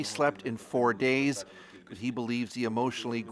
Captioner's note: speaking foreign language